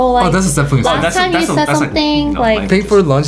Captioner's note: group speaking together